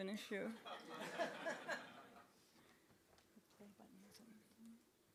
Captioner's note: group laughing